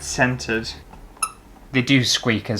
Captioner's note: squeak!